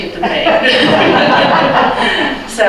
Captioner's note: laughter